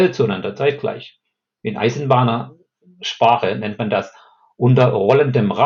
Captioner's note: in German